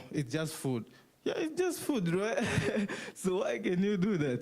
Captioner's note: laughs